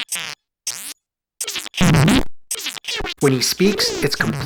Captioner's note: c64 simulated speech